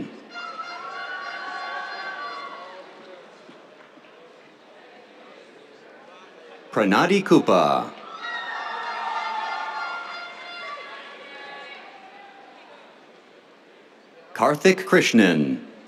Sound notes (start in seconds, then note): 0.3 cheers, air horn; 8.8 cheers, air horn